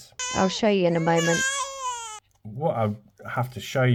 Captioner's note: baby crying